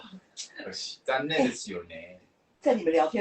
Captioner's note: in Japanese